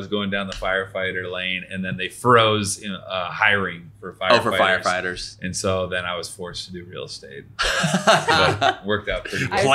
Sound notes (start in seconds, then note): 7.6 laughing